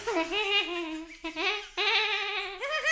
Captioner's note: cackling laughter